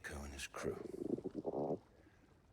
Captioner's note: growls